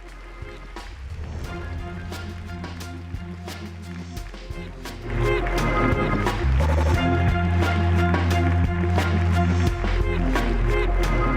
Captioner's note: applause